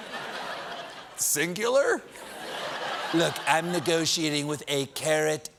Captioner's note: laughter